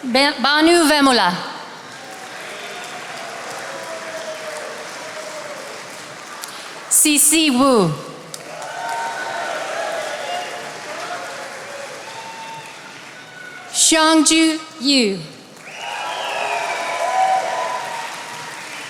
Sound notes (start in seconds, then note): 1.6 attendees applauding; 15.3 attendees applauding